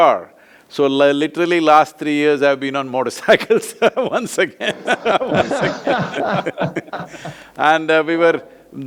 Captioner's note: both laugh